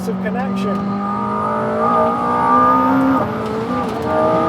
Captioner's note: engine revving